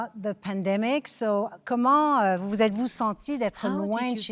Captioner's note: speaking French